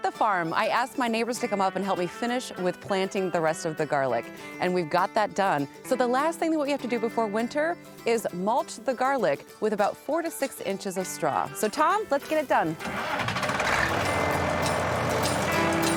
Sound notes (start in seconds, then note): 12.4 tractor's ignition turns on